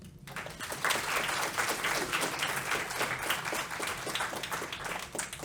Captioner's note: applause